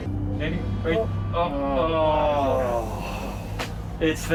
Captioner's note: groaning